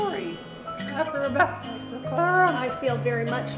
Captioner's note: talking